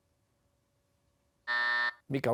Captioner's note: buzzer